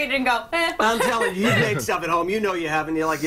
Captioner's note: laughter